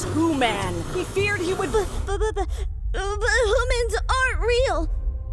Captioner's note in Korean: 말더듬